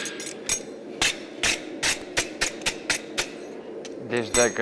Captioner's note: metal scraping against the brush